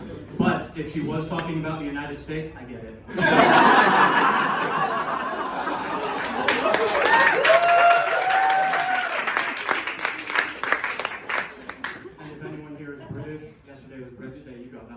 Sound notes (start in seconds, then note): 6.1 audience Cheering